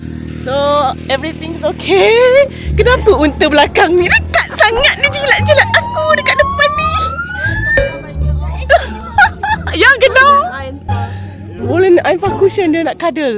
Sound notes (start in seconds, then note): 7.9 speaking German; 8.4 laugh